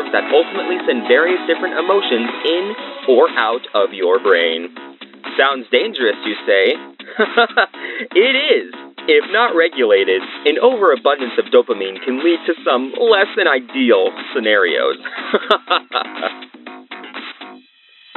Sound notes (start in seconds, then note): 7.0 chuckle; 15.1 unbothered chuckle